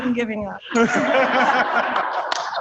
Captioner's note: rang the bell; applause